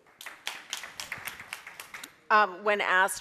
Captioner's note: audience claps